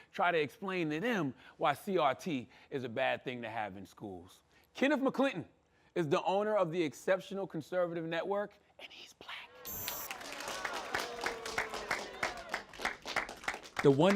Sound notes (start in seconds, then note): 9.2 whispers; 9.6 applause